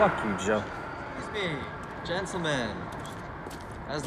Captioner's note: voiceover